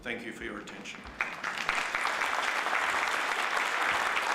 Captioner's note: applause